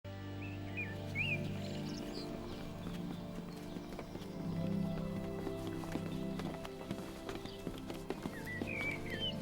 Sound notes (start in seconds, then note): 0.0 gentle music; 0.3 birds chirping